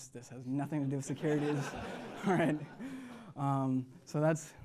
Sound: laughter

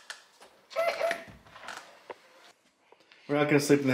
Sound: babbling

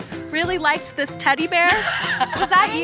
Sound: laughs

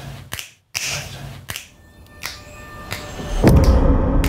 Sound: fingers snapping; voice whispering; ominous foreboding music; fingers snapping

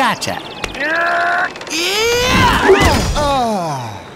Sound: strains

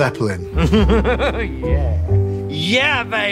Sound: laughs

